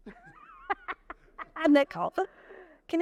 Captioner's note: laughing